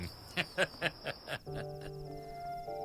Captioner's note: Laughs